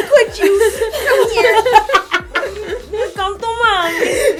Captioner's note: laughter